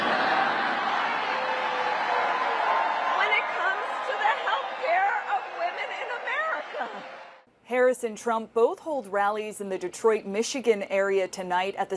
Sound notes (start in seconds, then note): 0.0 cheers; 3.2 cheers